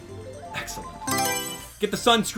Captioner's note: Mario Selection Sound